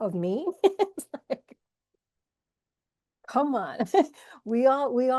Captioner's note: laughs